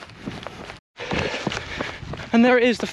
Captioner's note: gravel crunches